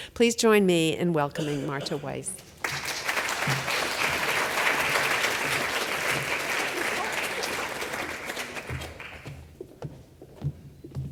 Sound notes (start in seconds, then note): 2.4 audience applauds